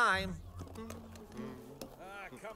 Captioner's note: he hums